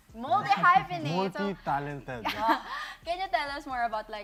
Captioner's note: laughs